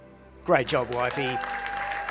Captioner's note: deserved Applause